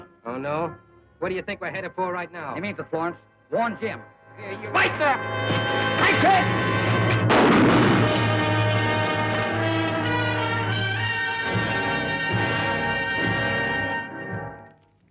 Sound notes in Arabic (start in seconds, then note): 5.2 موسيقى درامية; 7.2 صوت طلقات نارية